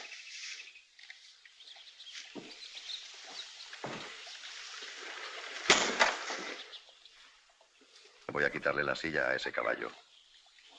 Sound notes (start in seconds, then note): 5.7 slap